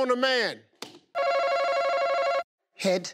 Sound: buzzer beeps

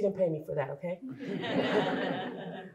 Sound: laughter

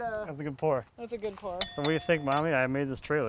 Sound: glass clinks

